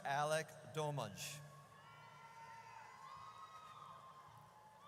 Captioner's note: audience cheers